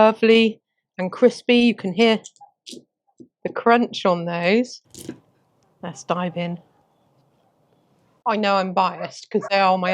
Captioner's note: crunch of potato skin under the fork